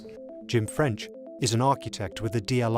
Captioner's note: voiceover